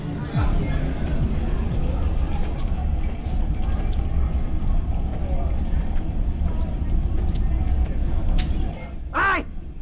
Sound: busy station sounds

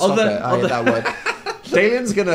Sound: Phil laughs

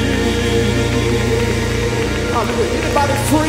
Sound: applauding

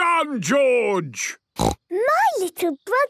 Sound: snorts

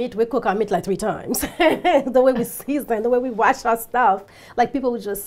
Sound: laughs

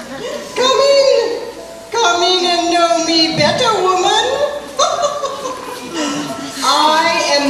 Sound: laughs

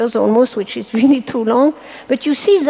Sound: chuckles

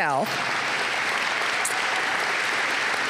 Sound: applause

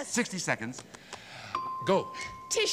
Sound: ding

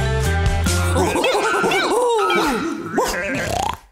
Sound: animal sounds

